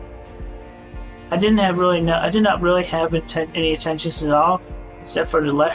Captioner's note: stuttering